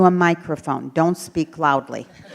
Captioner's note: laughter